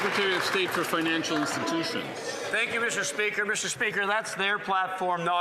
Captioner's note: some Applause